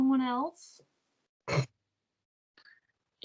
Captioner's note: Catherine snorts